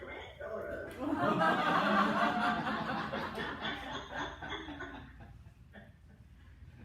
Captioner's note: laughter